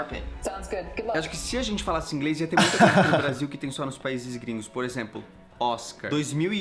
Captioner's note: laughs